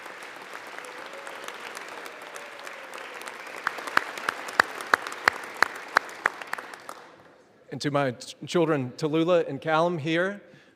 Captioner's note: applause